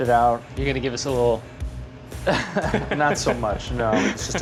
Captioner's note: laughs